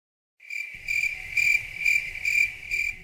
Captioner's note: crickets